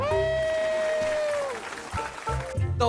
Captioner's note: round of applause